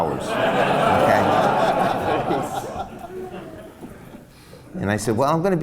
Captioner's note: laughs